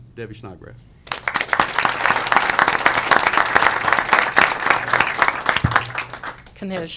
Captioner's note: applause